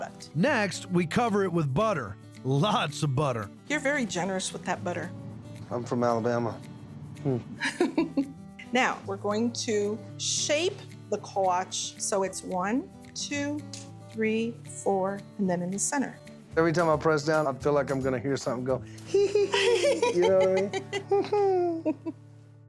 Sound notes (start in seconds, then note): 7.6 laughing; 18.7 imitating doughboy giggle; 21.7 laughs